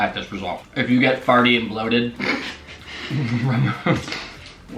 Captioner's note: laughs